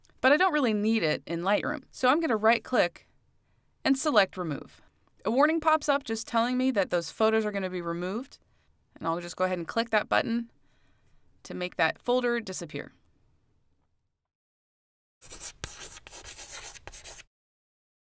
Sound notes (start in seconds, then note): 15.2 chalk scratching